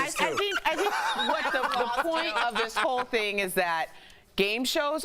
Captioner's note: laughter